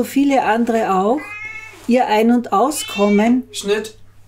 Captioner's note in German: Katze schreit im Hintergrund